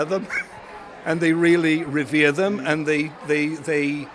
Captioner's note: chuckles